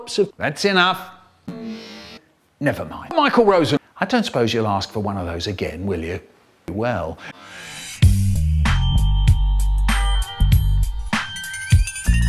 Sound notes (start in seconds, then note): 1.6 deep sniff; 7.2 deep breath